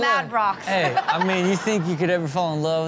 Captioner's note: audience laughing